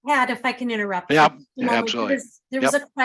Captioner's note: pat